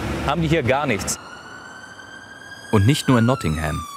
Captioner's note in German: Sirene